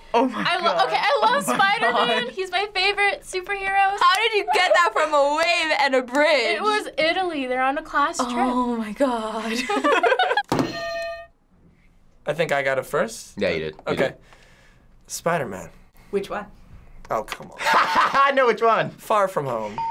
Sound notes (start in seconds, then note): 9.5 both laugh; 10.6 hitting bell; 17.7 laughs